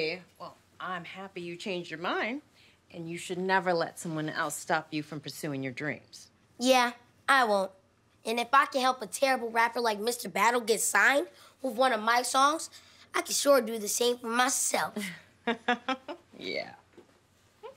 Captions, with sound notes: Well, I'm happy you changed your mind. And you should never let someone else stop you from pursuing your dreams. Yeah, I won't. And if I can help a terrible rapper like Mr. Battle get signed with one of my songs, I could sure do the same for myself. [laughing] Yeah.